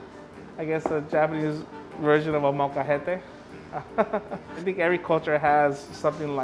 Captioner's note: laughs